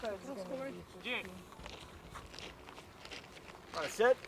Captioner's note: feet tapping; athletes chattering